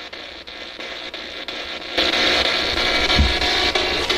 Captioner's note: static buzzing